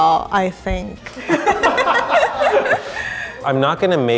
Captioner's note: all laughing